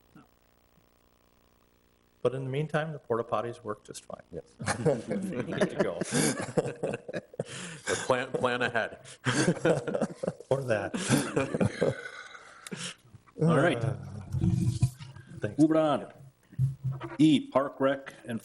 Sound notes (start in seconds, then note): 4.7 everyone laughs